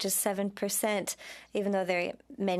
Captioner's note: speaking French